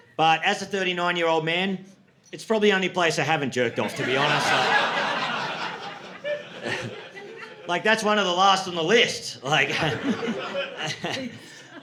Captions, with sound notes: But as a 39 year old man, it's probably the only place I haven't jerked off, to be honest. (audience laughing) Like that's one of the last on the list. (audience laughing)